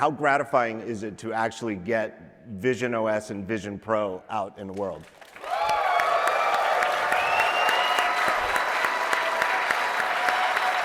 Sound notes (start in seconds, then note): 5.0 applause